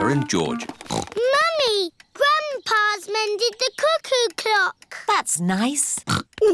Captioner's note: snorts; snorts